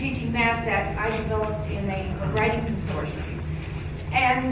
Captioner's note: speaking faintly